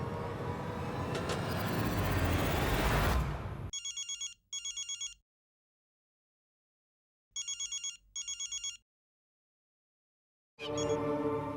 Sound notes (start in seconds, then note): 1.3 soft metallic thudding sound; 3.7 phone rings